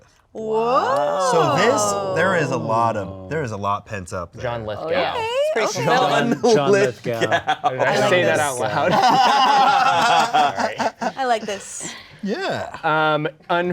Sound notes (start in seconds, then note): 8.7 everyone laughing